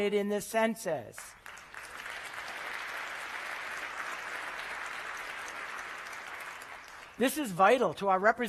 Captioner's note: applause